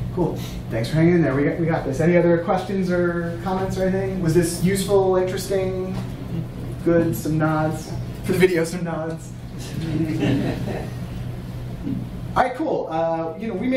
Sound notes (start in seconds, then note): 9.7 audience laughing